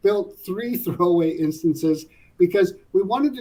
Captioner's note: laugh